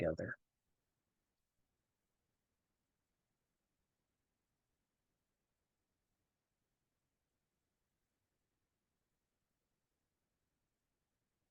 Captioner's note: pause